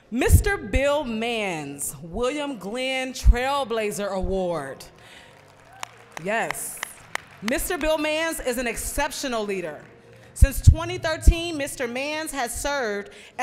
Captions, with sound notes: Mr. Bill Manns, William Glenn Trailblazer Award. (applause) Yes, Mr. Bill Manns is an exceptional leader. Since 2013, Mr. Manns has served